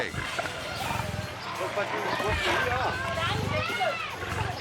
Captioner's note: lions snarling; people yelling